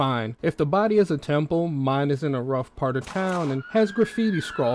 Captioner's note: gunshot and siren sound effects